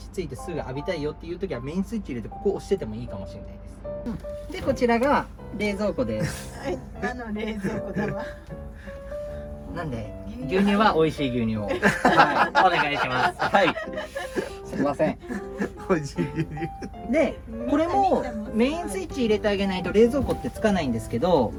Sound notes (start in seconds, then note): 15.0 laughs